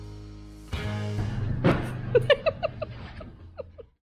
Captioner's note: laughter